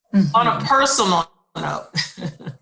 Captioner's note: chuckles